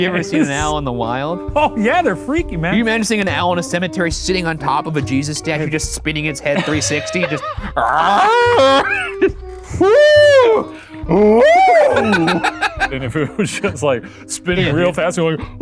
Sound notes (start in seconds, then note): 7.7 imitates owl; 9.2 both laugh